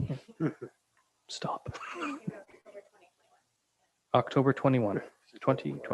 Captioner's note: laughing